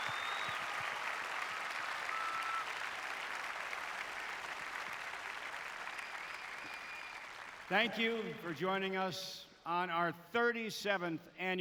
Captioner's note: applause